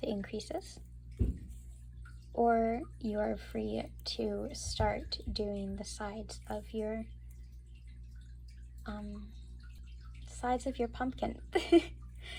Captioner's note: laugh